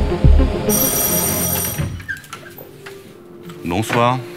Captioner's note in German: Eingangsklingel